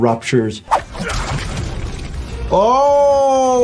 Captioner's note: Homelander grunts